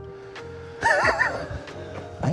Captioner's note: laughing